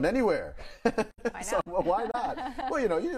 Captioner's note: laughs